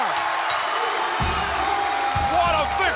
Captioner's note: bell ringing; crowd cheering